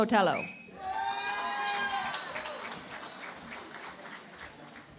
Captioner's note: cheering and Applause